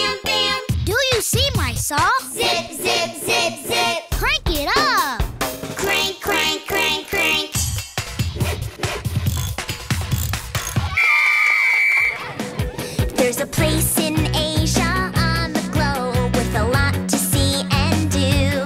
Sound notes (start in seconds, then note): 7.2 tool sounds; 10.9 whistling